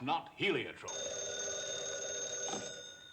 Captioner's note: phone rings